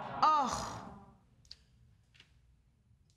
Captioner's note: audience groaning